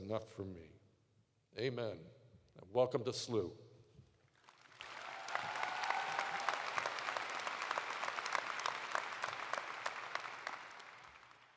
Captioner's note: cheers and applause